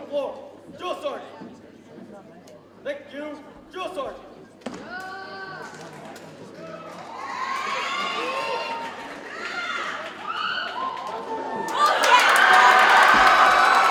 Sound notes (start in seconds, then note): 6.9 audience cheers and applauds